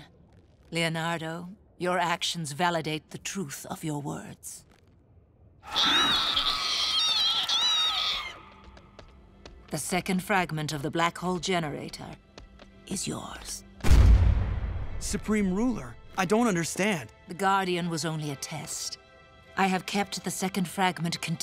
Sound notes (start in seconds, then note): 5.7 screeching; 13.8 thudding